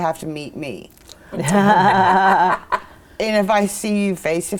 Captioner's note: all laughing